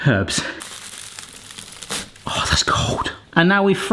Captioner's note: herbs crackling